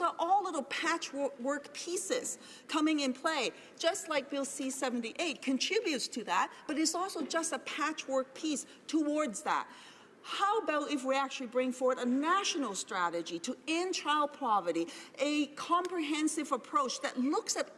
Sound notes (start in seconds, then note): none